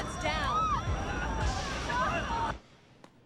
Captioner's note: screaming and crying